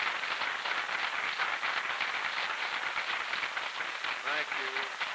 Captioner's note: applause